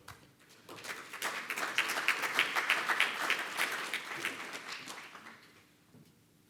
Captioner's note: applause